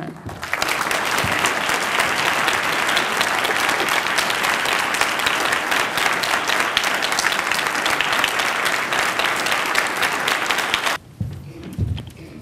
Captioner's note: applause